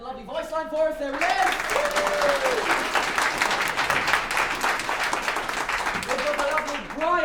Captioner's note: applause